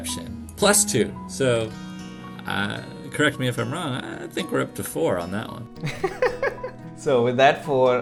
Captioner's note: laughter